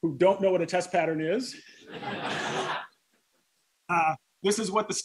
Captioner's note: laughter